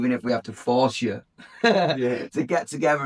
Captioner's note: laughs